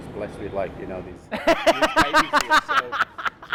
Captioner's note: laughs loudly